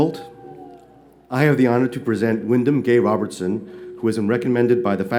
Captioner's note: none